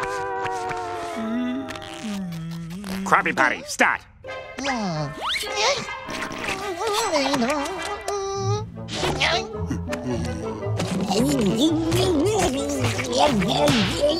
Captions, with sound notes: Krabby Patty, stat! [groaning] [chewing]